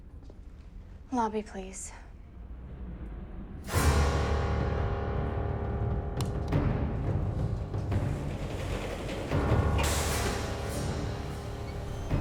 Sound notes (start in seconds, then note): 3.7 menacing music; 7.8 elevator door rattles